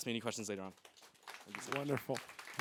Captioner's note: applause